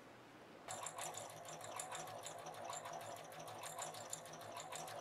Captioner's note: sewing machine humming